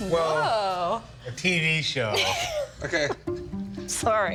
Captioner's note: laughing